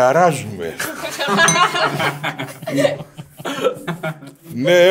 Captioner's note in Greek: γέλια